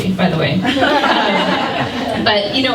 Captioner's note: laughter